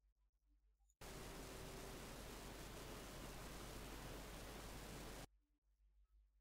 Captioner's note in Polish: Szum z nagrania